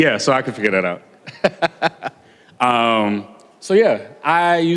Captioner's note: laughter